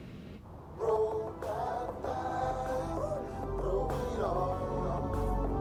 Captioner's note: ring tone playing